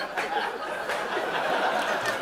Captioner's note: laughter; laughter continues